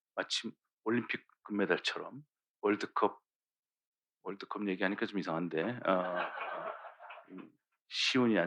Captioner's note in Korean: 웃음